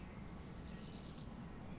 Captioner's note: birdsong